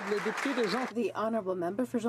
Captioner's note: applause